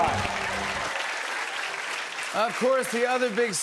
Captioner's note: cheers and applause